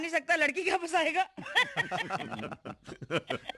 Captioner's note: all Laughing